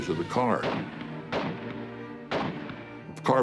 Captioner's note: gunshots